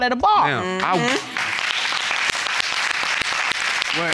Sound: applauding

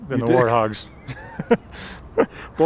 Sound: huell laughs

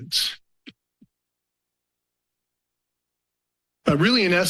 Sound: pause

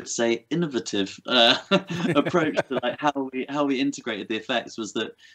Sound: laughter

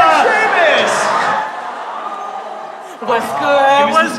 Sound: audience awww's

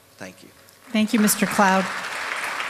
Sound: applause

